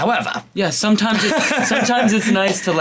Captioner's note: chuckles